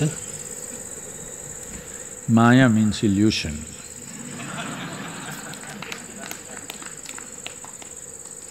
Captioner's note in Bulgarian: смее се